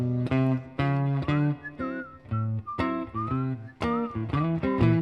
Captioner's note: whistling